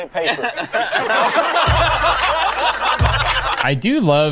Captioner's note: crowd laughs